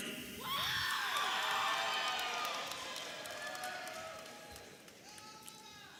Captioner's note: audience applauding and cheering